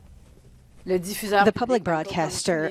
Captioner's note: non-english speech